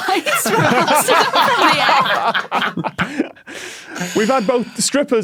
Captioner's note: group laughs uproariously